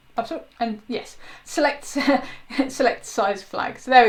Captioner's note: laughs